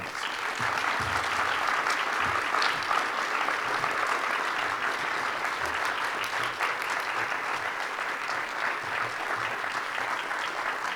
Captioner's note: applauding